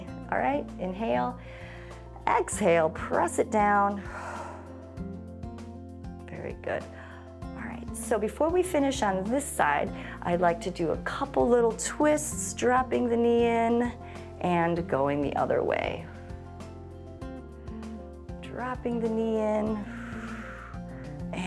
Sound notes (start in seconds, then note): 4.0 exhales; 4.0 inhales; 19.8 exhales